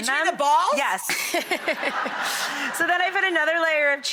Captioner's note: audience laughing